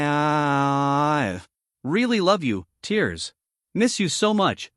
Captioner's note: tears